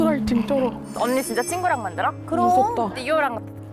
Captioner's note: emotionally touched sound